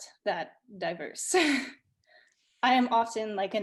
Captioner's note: chuckles